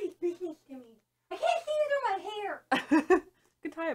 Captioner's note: laughs